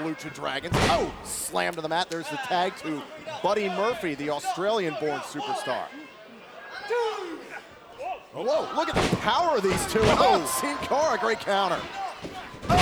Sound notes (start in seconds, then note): 5.6 crowd chatter